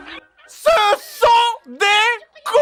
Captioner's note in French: fond musical champêtre; JDG, hurle